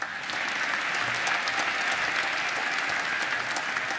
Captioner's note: applause